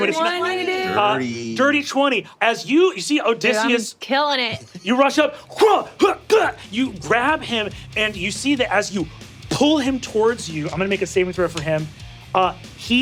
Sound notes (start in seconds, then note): 6.0 grunting